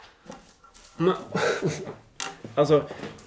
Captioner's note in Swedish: hufffuff